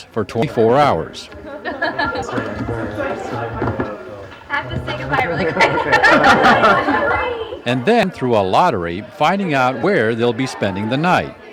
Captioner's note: laughter